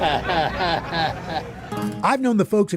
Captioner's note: chuckles